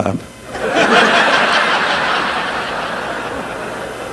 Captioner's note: audience laughing